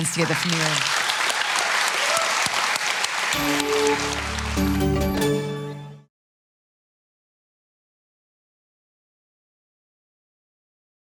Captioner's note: applause